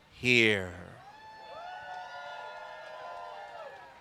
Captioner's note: cheering